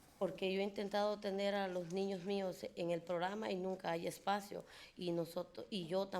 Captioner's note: speaking in foreign language